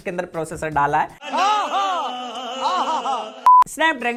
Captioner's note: ah! ah!